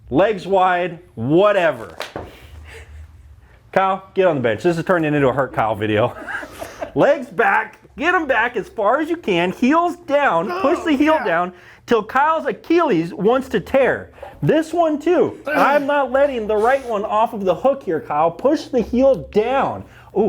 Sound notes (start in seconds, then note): 6.1 both laughing